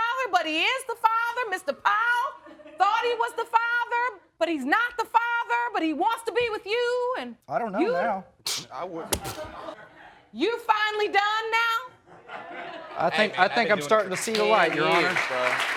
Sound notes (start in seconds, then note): 9.1 scoffs